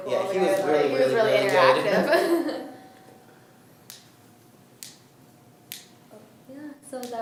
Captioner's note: laughs